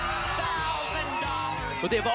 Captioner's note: applause and cheering